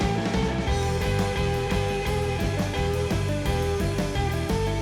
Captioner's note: none